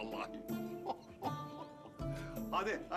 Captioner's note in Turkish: Gülme sesi